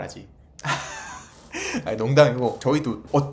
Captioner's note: soulless laughter